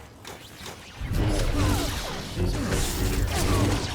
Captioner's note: gunshots